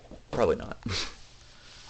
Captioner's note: chuckle